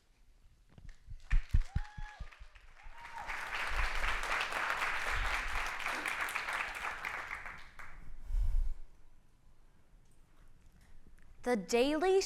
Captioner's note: clapping